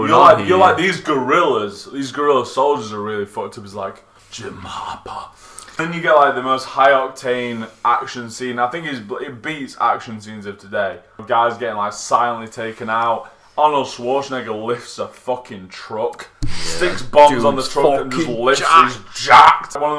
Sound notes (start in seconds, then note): none